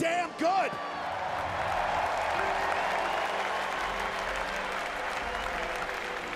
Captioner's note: audience cheers and applauds